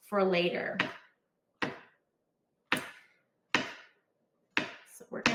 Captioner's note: knife thumping